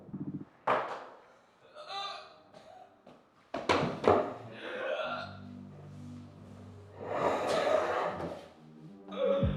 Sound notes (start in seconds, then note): 1.0 choking